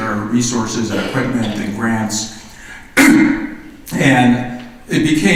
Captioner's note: coughs